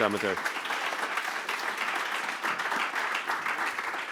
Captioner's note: applause